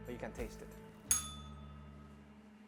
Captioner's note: bell rings